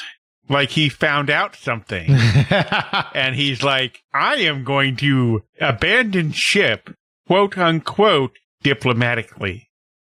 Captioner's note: laughs